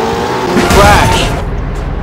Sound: crash

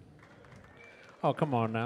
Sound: audience applauds lightly

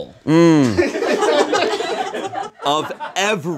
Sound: audience laughs

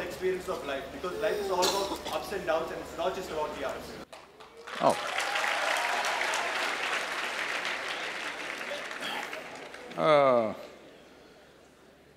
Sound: applause

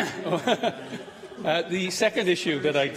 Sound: laughter

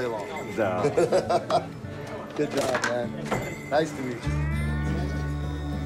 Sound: laughs

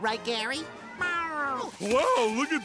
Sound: meowing

